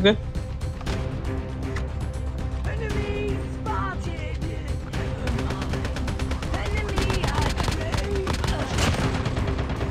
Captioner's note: Firing shots